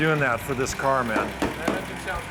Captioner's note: tapping car